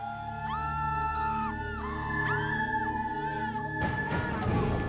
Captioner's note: people screaming